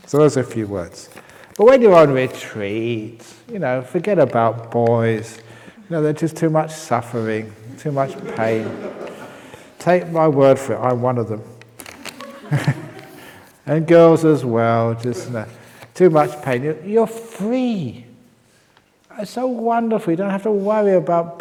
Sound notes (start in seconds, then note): 7.6 laughs; 12.1 chuckle